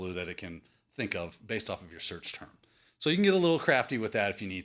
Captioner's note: none